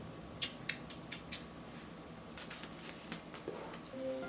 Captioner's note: smooches